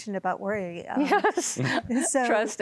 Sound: laughing

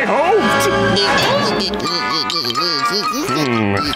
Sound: babling

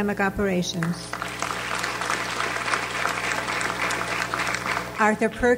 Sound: audience applauds

